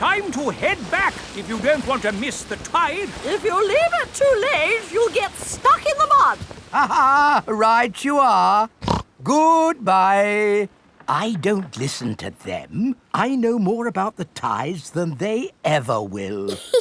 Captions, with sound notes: Time to head back if you don't want to miss the tide. If you leave it too late, you'll get stuck in the mud. (LAUGHS) Right you are! (SNORTS) Goodbye! I don't listen to them. I know more about the tides than they ever will!